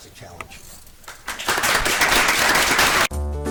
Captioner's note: audience applauds; bright, upbeat music